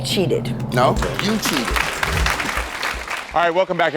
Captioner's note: audience applauds